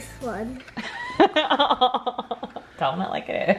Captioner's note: laughing